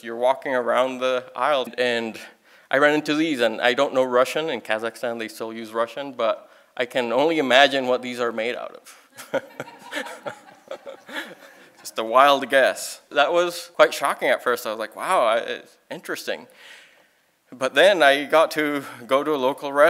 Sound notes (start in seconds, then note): 11.6 laughing